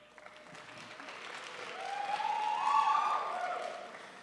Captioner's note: crowd applauds